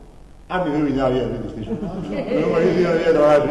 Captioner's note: laughs